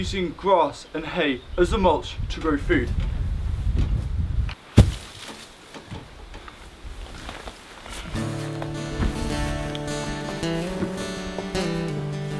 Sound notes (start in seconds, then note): 4.7 hay thumps; 8.1 gentle music